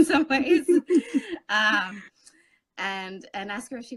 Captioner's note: laughing